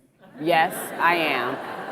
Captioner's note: audience laughs